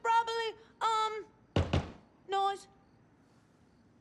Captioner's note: knocking